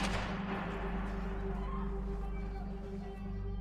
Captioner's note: gunshot